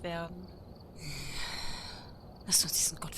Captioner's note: annoyed groaning